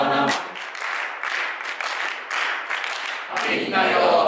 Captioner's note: clapping